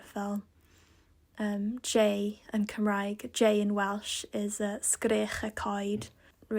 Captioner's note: in English